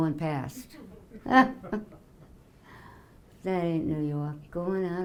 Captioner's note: laughing